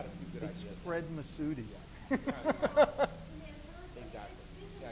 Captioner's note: laughs